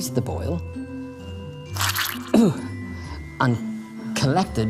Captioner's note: squelches